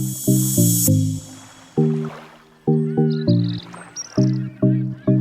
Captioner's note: water gently splashes